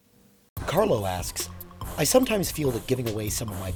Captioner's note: voiceover